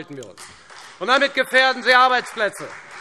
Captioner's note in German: Beifall Freie Demokraten